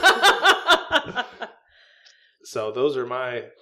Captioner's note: meniacle laughing